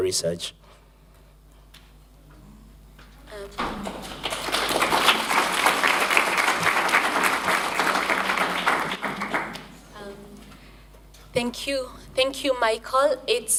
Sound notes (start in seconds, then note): 3.2 applause